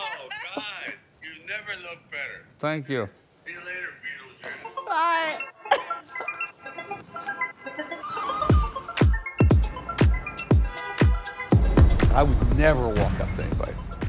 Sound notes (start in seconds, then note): 6.3 girls laughing; 7.9 upbeat music